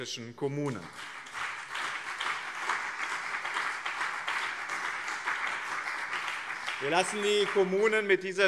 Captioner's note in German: Beifall BÜNDNIS 90/DIE GRÜNEN und CDU